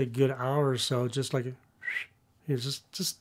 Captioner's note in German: Pfeifen